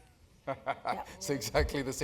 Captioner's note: laugh